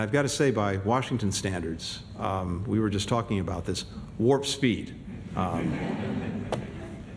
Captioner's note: laughter